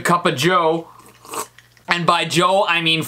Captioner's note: loud sipping